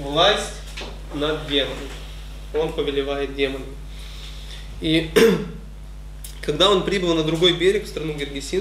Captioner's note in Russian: прочищает горло